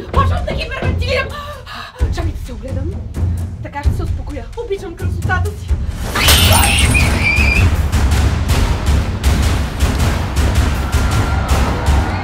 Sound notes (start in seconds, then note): 1.4 breathing; 6.2 scream